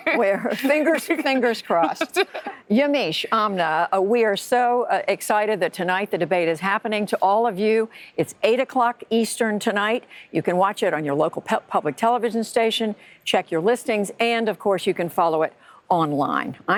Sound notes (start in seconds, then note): 1.8 laughter